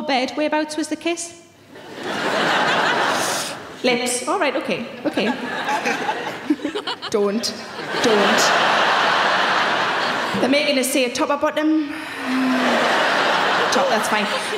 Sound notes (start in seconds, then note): 1.8 audience laughing; 8.4 audience laughing